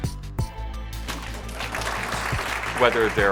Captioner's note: applauding